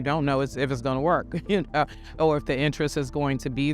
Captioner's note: laughs